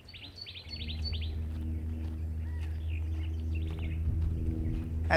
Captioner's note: bird calls